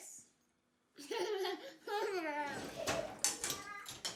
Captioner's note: laughs